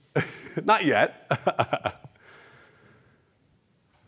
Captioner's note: laughs